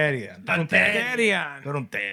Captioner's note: non-english Speech